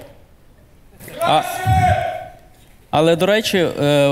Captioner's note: the audience cheers